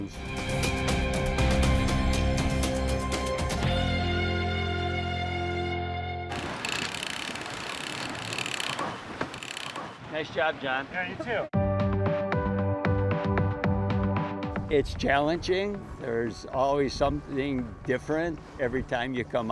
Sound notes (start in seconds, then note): 3.1 upbeat music; 9.4 crank creaking